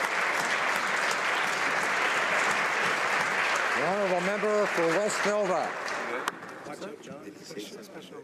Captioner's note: applause